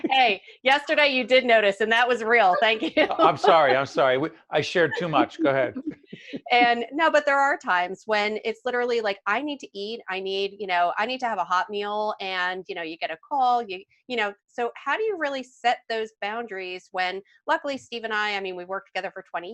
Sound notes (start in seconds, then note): 2.4 laughing